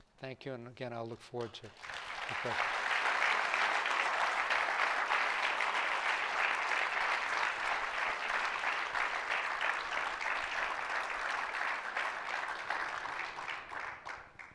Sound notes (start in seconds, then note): 1.6 applause